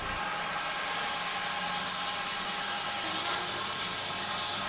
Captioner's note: saw whirring